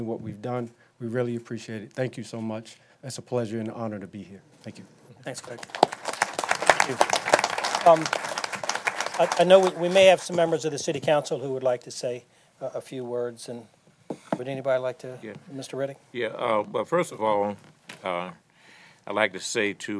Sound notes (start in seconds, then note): 8.1 applause